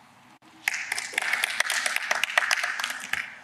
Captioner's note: applause